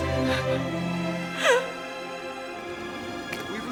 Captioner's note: weeping